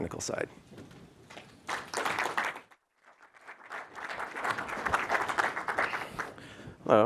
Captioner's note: applause